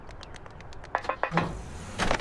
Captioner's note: footsteps on street; footsteps going up the ladder; sound of car driving/screeching away